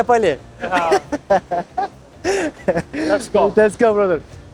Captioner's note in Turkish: kahkaha